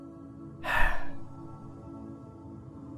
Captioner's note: he sighs